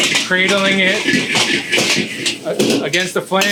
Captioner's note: wok clanging